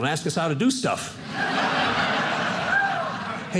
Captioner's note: audience laughing